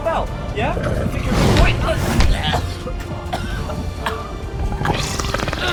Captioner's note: snarls